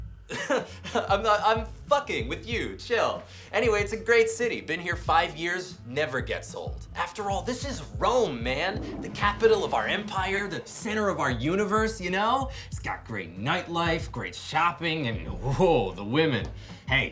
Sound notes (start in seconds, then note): 0.3 laughs; 7.7 toilet flushes